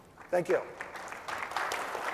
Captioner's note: applause